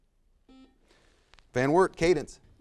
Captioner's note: buzzer buzzes